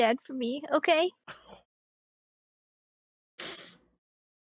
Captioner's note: sniffles